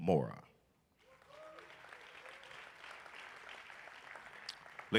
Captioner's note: applause